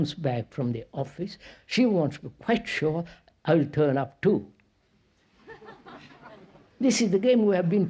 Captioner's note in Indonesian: Tertawa